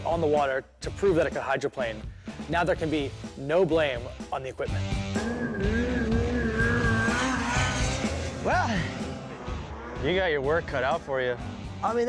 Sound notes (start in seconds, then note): 4.8 engine roaring